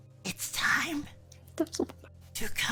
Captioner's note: hushed mutter